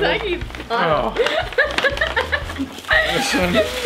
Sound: laughing

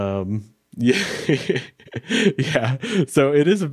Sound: laughs

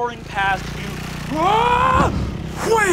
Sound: shouts

